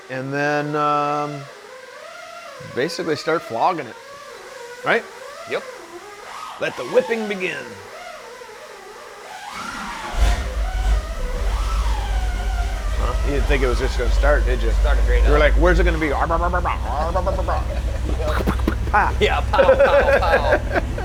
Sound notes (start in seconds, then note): 8.1 engine whirring; 16.3 imitating engine